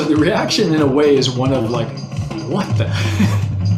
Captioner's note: laughs; rhythmic drumming continues